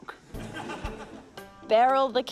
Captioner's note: laughter